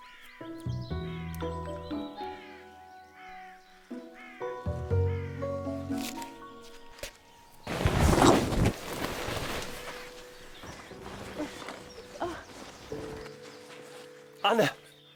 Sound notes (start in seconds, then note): 0.0 gentle orchestral music continues; 7.6 tent thudding; 12.2 Anna grunting